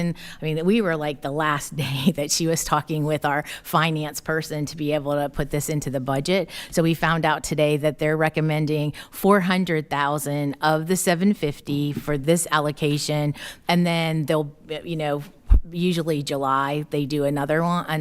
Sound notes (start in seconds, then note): none